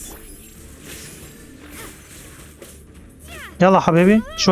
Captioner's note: grunts